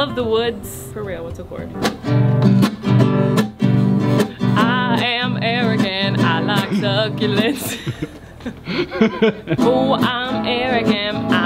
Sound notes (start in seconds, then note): 1.9 guitar music; 7.4 both laughing